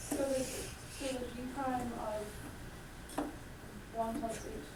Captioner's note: voiceover